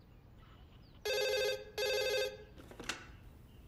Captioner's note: Phone rings